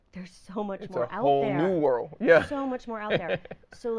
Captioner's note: laughing